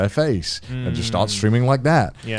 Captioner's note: affirmative murmuring